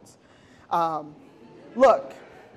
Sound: audience laughing

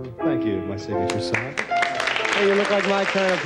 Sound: audience claps

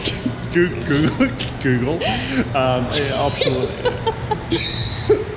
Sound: laughing

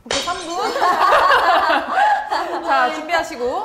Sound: haha

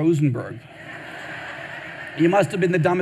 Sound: audience laughing

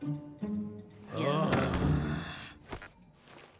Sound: all groan

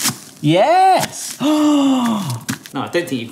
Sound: onion crunching; gasps

